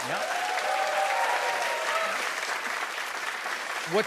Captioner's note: cheers and applause